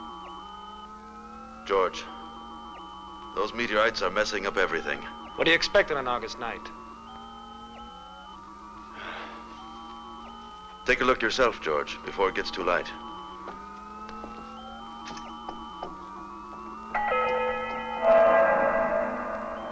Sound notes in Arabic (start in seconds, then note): 6.7 جهاز يصدر صوت طنين; 16.9 موسيقى مشؤومة